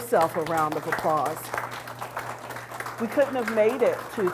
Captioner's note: audience applauds